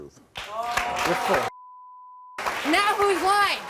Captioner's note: beep